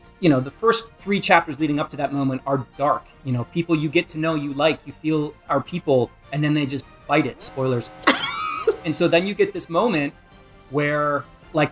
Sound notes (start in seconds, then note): 7.3 alarm; 8.0 laughs